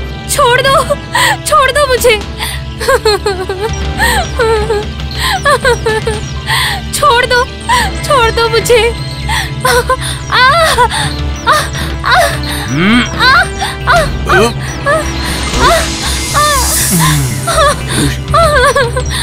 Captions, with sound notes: Leave me. Please leave me. [Crying] Leave me. I beg of you. Leave me. [Groans]